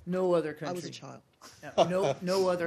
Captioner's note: laughter